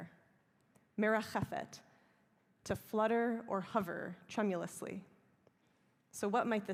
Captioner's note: hebrew